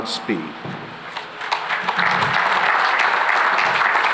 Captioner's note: applause